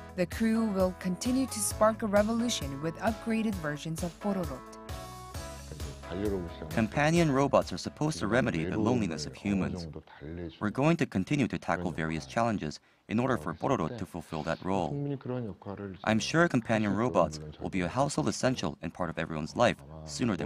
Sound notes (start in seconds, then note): 5.1 Korean